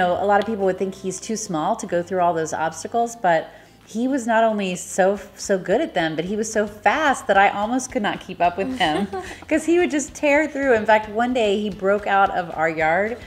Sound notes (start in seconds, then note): 8.7 chuckling